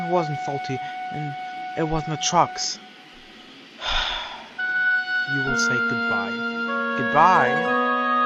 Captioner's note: sigh